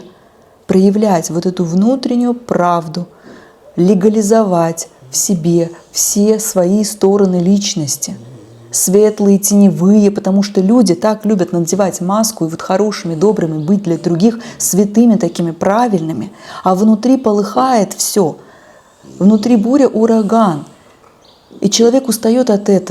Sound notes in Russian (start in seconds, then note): 3.1 фыркает